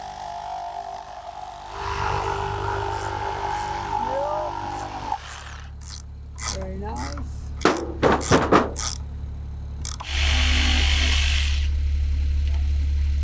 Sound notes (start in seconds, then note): 7.4 board thuds; 9.8 drill buzzes